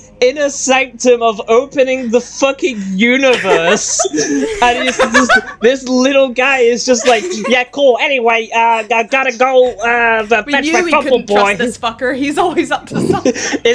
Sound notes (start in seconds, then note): 3.3 laughter; 7.5 Sparx voice